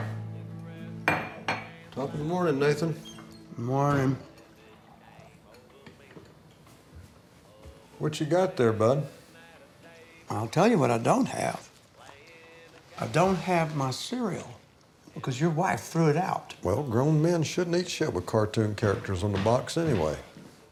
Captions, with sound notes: (cup clacks) - Top of the morning, Nathan. - Good morning. - What you got there bud? - I'll tell you what I don't have, I don't have my cereal because your wife threw it out. - Well grown men shouldn't eat shit with cartoon characters on the box anyway.